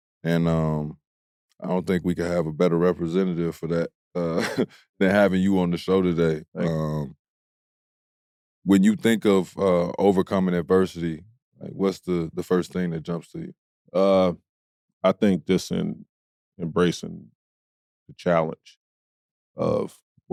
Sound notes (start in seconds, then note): 4.2 chuckles